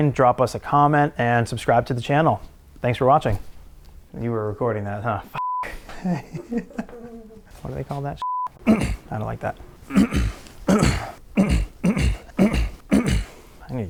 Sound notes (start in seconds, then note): 5.3 beep; 9.8 clears throat